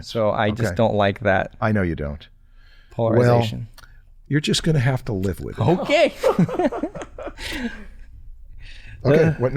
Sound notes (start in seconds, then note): 6.0 chuckles